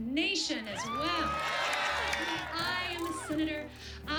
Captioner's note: cheers and applause